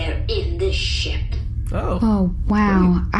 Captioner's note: excited